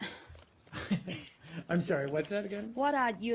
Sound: laughs

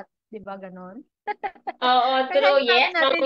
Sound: laughs

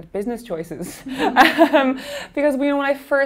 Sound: laughing

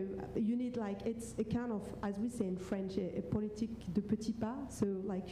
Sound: speaks French

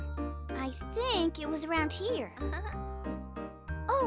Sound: giggles

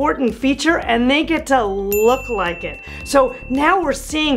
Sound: bell dings

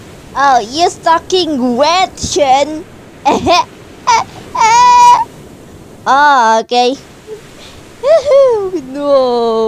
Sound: laughs

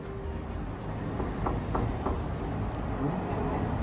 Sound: knock

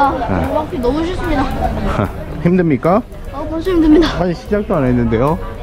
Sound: walking

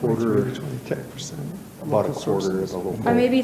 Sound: overlapping chatter

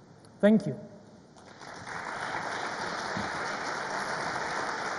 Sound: audience applauds

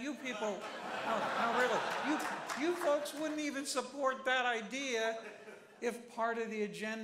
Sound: applause

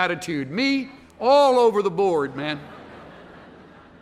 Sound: laughter

